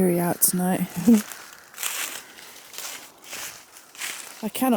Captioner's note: leaves crunching